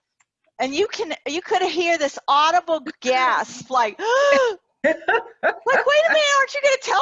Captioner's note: gasping